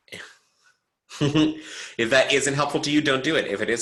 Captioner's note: chuckles